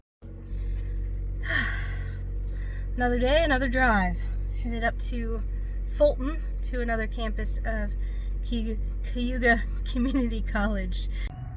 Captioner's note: sigh